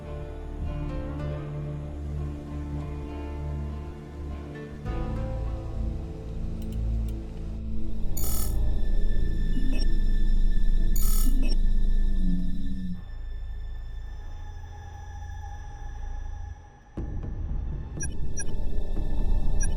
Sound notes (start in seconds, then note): 5.1 ominous music; 7.8 machine beeping; 9.2 dramatic music